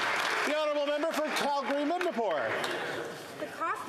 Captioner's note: some Applause